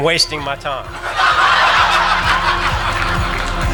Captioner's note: laughing; soft music